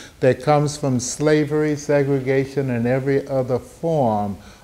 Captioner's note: none